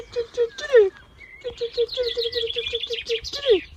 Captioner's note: birds chirping